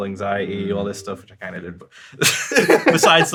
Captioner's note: laughs